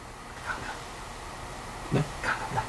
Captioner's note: whispering